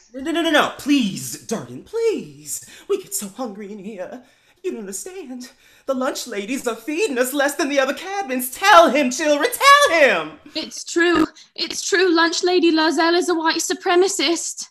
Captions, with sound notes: COUNSELOR JAZZ No! Please, Durden, please! We get so hungry in here. (southern belle accent) You don’t understand. The lunch ladies are feeding us less than the other cabins! Tell him, children! TELL HIM! TULIP (british accent) It’s true! It’s true! Lunch Lady Lurzell is a white supremacist!